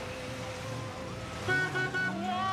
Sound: car horn honking

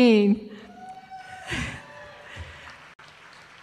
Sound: applause

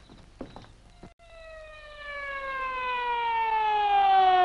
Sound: siren wailing

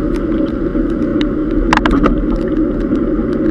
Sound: gear shifting

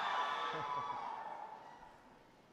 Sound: applause

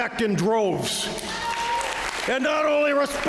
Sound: applause

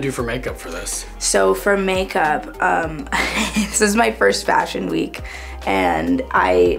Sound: laughs

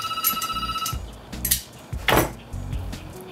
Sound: phone rings

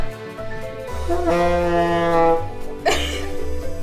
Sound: honking; laughing

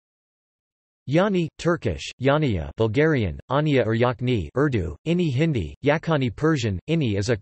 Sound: Turkish

